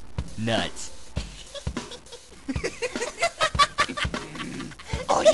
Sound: laughing

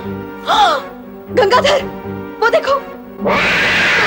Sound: gasps

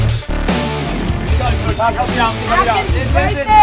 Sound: chatter

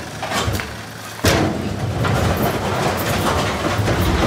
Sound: metallic rumble

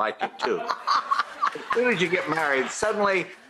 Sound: laughs

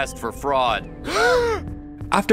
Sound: gasps

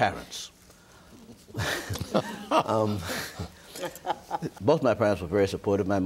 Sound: group laughing

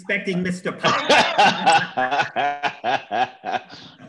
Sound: laughter

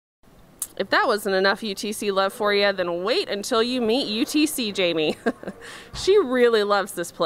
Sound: foreboding chuckle

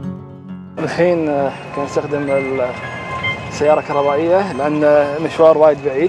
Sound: speaking foreign language

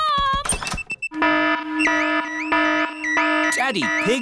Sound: alarm blaring

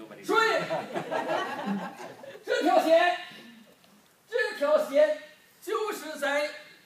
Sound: group laughing; speaking foreign language

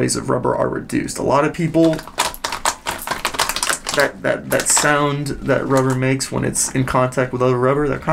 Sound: rubber crinkles

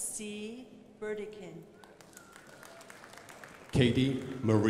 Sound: crowd applauding

